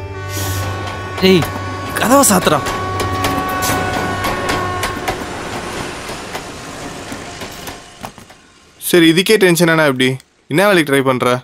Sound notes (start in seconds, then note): 3.2 train Sound